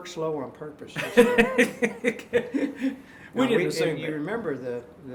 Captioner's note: laughing